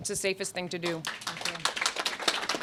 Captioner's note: applause